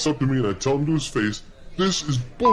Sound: beep

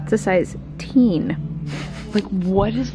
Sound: laughing

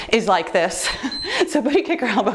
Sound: timer beeps

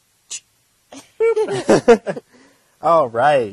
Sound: laughter

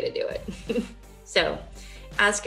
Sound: chuckling

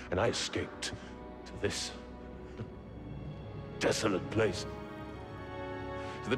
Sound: contemptuous chuckle

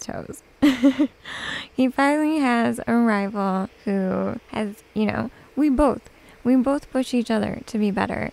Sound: giggles

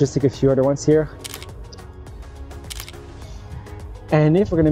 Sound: camera clicking

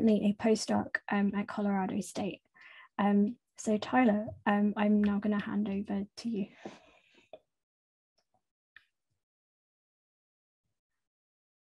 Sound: pause

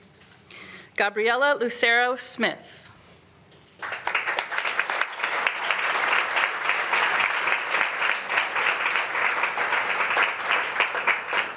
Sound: applause

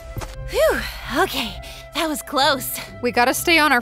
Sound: upbeat calm music; sighs

